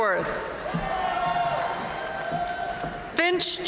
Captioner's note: audience cheering and applauding